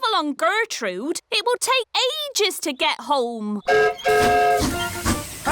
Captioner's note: whistle blows